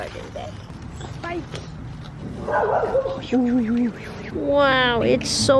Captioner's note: dog barks